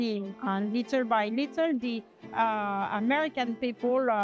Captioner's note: french